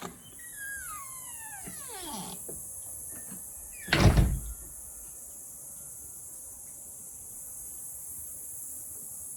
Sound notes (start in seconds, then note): 0.2 Chuck opens and closes door; 3.0 insects chirping